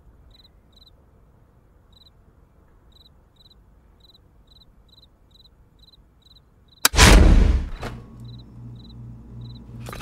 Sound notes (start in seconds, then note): 7.6 fridge door opens